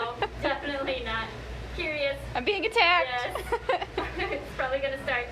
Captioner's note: laughs; laughing